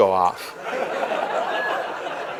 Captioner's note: laughter